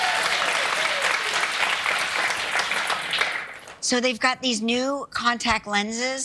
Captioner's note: applause